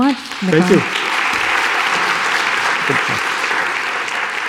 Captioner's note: audience applauds